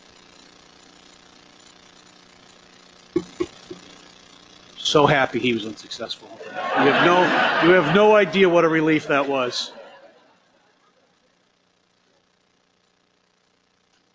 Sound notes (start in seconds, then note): 6.4 laughter